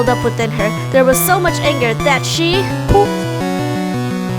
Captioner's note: poof